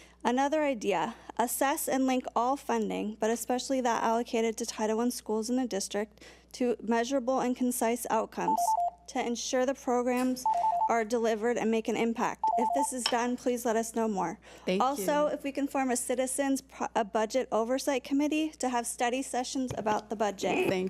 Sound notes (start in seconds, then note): 10.4 time beeps; 10.4 timer beeps; 12.4 time beeps